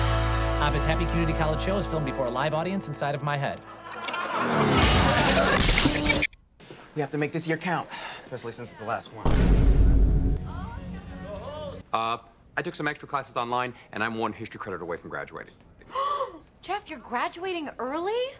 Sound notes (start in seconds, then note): 3.4 laugh track; 9.2 boom; 15.8 gasp